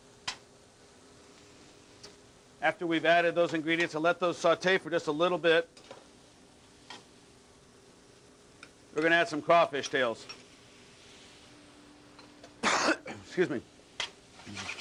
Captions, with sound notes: - After we've added those ingredients and let those sautee for just a little bit, we're gonna add some crawfish tails. (coughs) Excuse me.